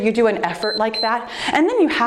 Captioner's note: timer beeps